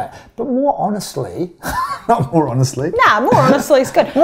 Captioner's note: chuckles